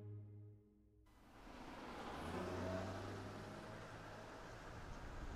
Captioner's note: car sounds